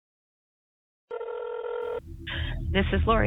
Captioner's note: phone ringing